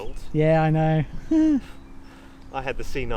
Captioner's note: chuckles